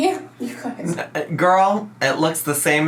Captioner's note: laughs